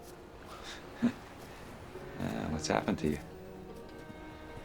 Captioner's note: chuckles